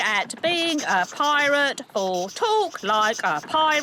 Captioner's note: phone beeping; phone ringing